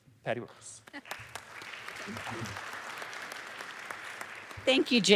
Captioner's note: applause